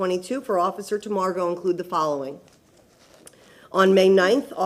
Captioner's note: none